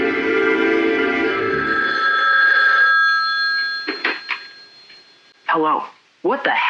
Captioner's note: phone ringing